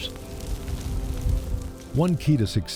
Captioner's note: crackling fire